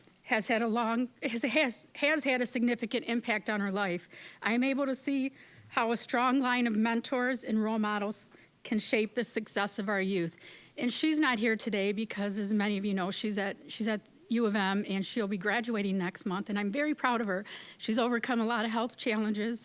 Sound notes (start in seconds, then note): none